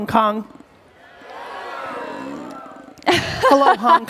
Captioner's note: cheering